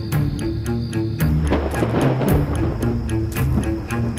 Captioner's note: Clouds rumbling